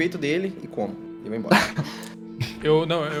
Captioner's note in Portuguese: risos